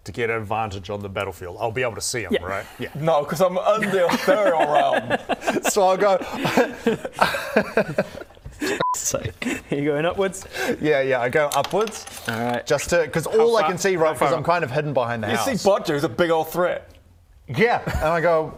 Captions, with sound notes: to get a vantage on the battlefield I'll be able to see him right? yeah no cos I'm in the ethereal realm! So I go *giggles* f***'s sake you going upwards? yeah yeah I go upwards Alright, just to, cos all - I can see right cos I'm kind of hidden behind the house - How far? How far? you see Bodger who's a big old threat Yeah and I go